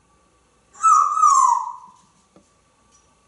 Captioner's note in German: whistling